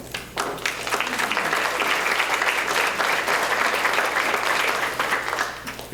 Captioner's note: applause